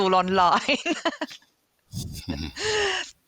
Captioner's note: laughs